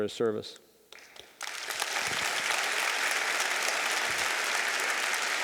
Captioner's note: audience applauding